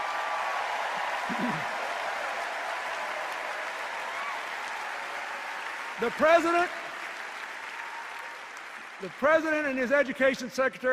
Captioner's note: cheers and applause